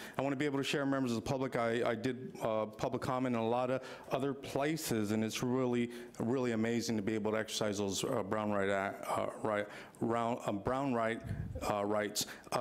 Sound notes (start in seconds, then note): 9.9 stammers